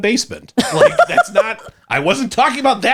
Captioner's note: laughs